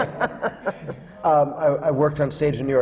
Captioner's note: laughter